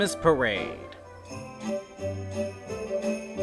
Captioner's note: none